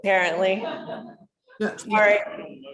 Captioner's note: laughter